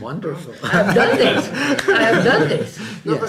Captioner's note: laughter